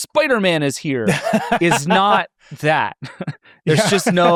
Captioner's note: laughs